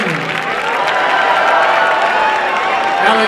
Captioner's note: applause and cheering